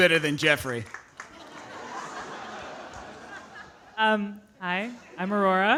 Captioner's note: audience laughing